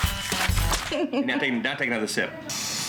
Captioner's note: laughing